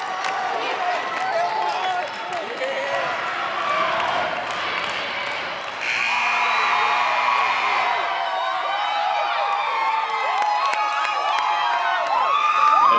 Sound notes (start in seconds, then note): 5.8 buzzer; 7.9 cheering and clapping